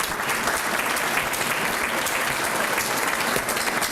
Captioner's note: applause